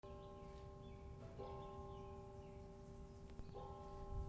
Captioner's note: bell ringing